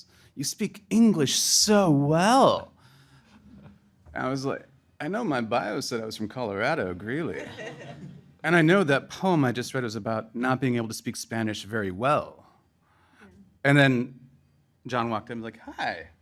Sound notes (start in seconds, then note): 7.2 crowd laughing